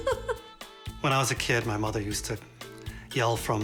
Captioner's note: laughs